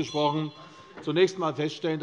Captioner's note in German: Unruhe - Glockenzeichen der Präsidentin